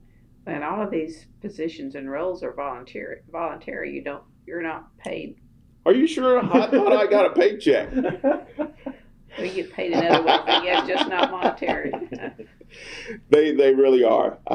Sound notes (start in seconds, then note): 7.8 laughter; 13.2 laughs